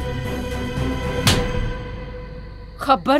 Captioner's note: Slaps